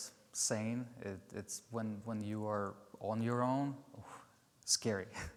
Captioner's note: exhales; chuckles